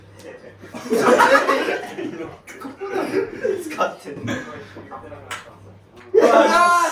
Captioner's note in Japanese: 笑い